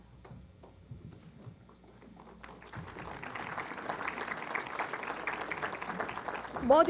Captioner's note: applause